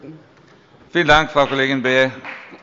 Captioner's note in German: Beifall bei der FDP